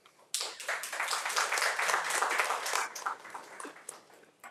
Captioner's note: audience applauding